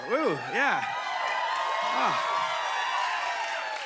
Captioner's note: cheers and applause